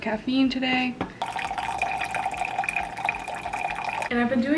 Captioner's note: coffee pouring